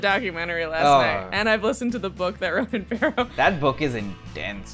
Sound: laughs

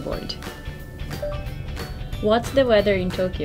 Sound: phone chimes

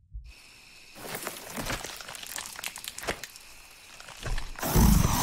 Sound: rustling; growling

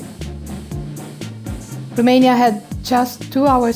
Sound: sound from TV

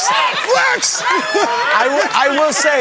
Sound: chuckles

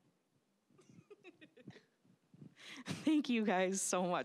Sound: laughing

